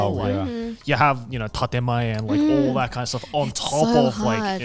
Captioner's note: speaking in Japanese